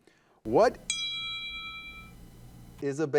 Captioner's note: bell ringing